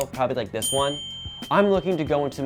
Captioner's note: bell dinging